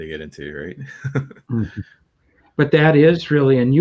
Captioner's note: laughing